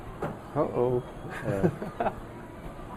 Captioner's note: laughs